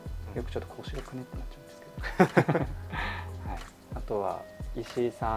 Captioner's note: laughter